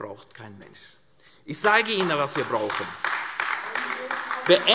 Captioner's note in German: Beifall AfD